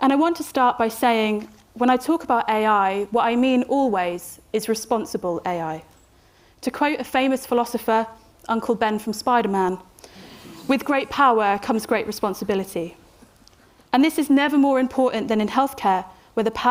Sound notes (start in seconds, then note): 10.5 audience chuckling